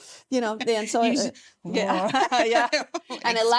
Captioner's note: laughing